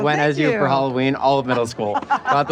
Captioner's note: laughs